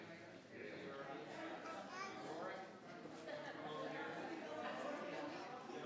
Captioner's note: crowd chattering continues